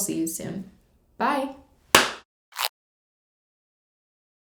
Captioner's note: claps; tape rips